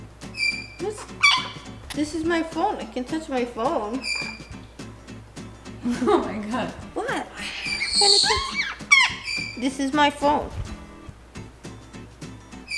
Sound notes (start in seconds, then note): 0.2 parrot chirps; 7.4 parrot chirps